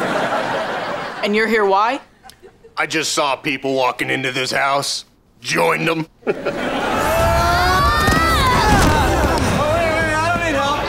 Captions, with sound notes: And you're here why? I just saw people walking into this house... Joined them. [screaming] Wait, wait, wait. I don't need help.